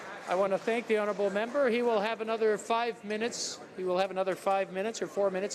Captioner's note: some Applause